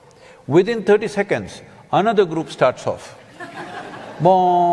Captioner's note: laughter